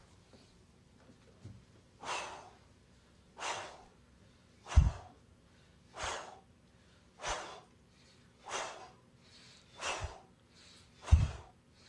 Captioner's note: releases 10 cleansing breaths